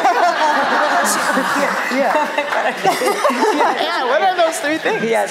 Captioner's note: laughter